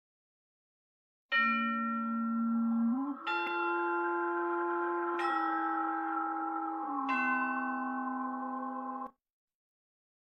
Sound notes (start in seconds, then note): 1.3 spooky chime plays